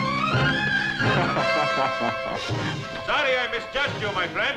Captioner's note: laughing